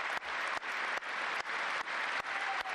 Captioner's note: cheers and applause